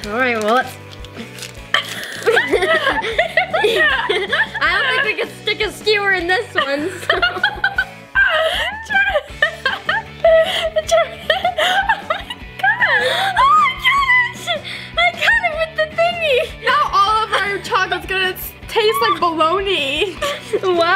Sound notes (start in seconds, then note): 1.8 giggles; 7.1 girls laugh